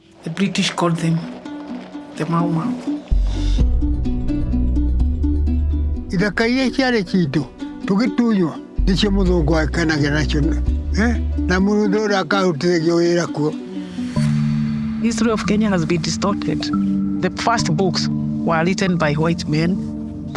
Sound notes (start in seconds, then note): 3.4 compelling music; 6.3 speaking in foreign language